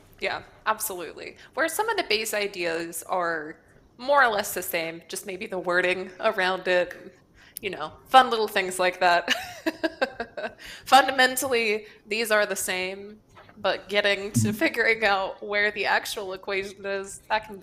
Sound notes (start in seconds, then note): 9.4 laughs